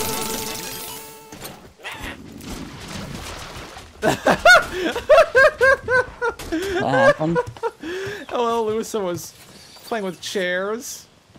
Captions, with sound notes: (laughs) (laughs) What happened? (laughs) What happened? (laughs) Oh, El Uso was... playing with chairs... Oh, El Uso was... playing with chairs...